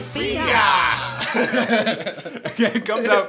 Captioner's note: laughs